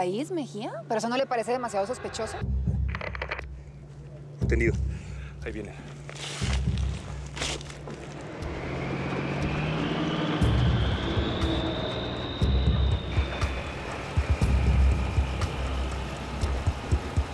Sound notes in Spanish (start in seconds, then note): 3.3 Sonido en el radio; 10.1 Sonido de motor